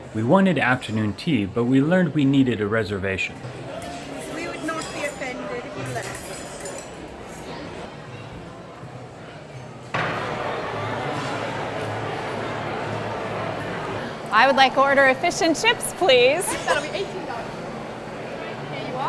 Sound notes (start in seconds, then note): 7.3 general hustle & bustle; 9.9 cafeteria noises